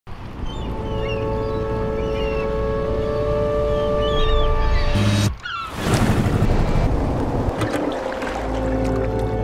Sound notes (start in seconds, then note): 0.4 seagull squawks; 2.8 uplifting music